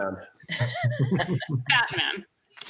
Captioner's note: laughter